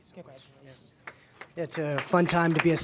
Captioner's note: applause